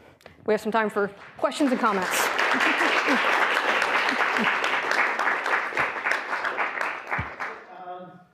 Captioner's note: applause